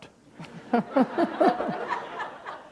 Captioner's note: laughter